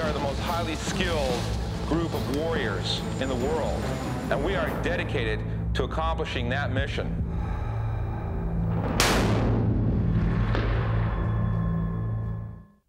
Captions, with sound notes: the most highly skilled group of warriors in the world. And we are dedicated to accomplishing that mission. (gun fires)